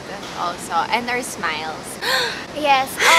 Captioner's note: gasps